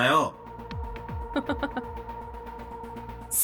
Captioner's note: chuckles